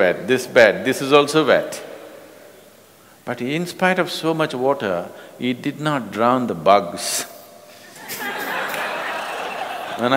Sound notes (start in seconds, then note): 7.8 laughter